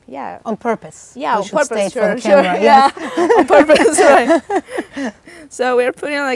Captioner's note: laughs